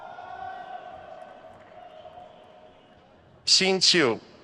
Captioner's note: crowd cheers